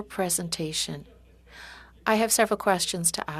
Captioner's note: speaking French